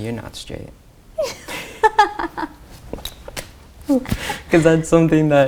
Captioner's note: laughs